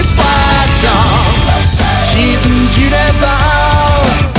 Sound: woo-hoo; woo-hoo

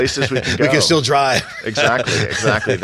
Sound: laughs

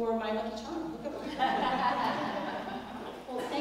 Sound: laugh

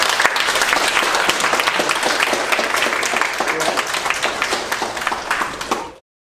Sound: clapping

